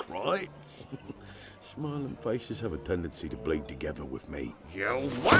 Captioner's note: endearing laugh